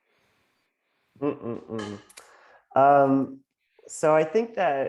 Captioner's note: thoughtfully humming